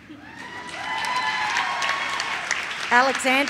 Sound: audience cheers

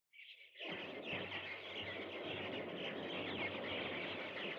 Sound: birds Chirping

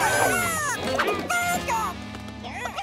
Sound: squawking

